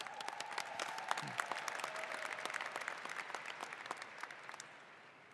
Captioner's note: applause